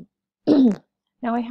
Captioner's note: clears throat